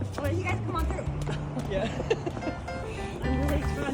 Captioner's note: laughs